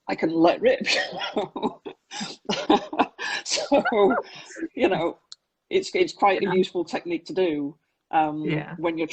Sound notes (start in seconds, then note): 2.1 laughing